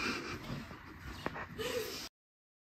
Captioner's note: laughs